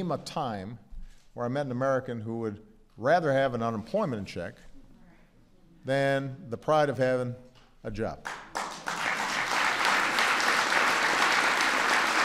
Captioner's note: applause